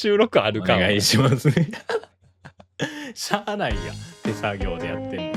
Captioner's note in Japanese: 笑い